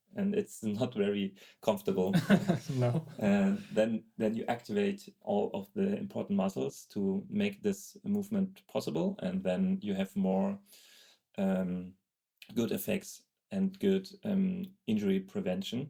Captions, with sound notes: and it's not very comfortable, (laughing) then you activate all of the important muscles to make this movement possible. And then you have more good effects and good injury prevention.